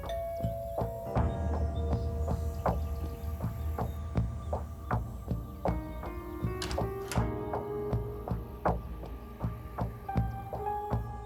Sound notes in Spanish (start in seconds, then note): 0.1 Timbre de la puerta; 6.5 Ruido al abrir la puerta